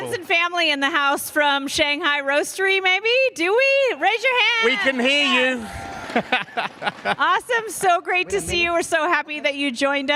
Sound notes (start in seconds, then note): 4.6 cheers and applause